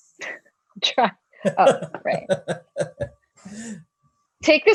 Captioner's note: laughs